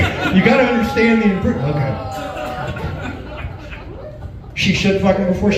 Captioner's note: groans